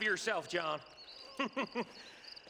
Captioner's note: laughs